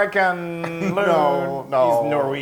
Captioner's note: laugh